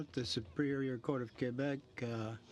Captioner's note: speaking French